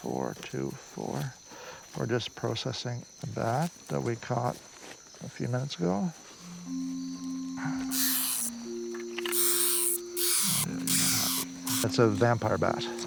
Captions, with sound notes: - 0424. We're just processing that that we caught a few minutes ago. (bat squeaking) That's a vampire bat.